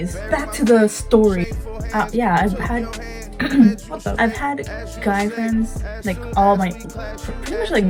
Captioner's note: clears throat